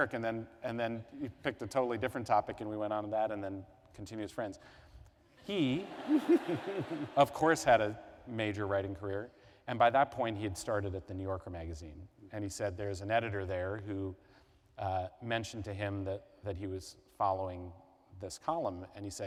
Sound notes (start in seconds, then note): 5.5 laughter